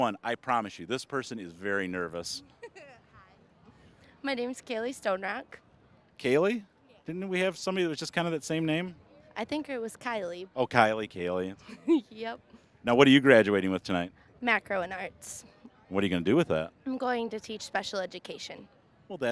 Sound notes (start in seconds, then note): 2.9 laughing